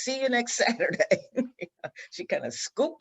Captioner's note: laughs